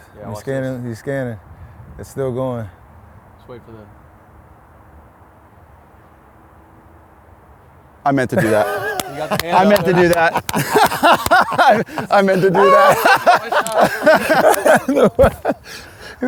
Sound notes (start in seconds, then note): 12.7 laughs